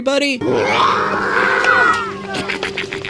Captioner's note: children screaming; nasally laugh and snort